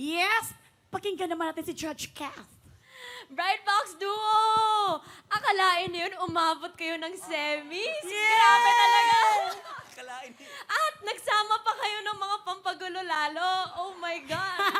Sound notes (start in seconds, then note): 2.8 breathes sharply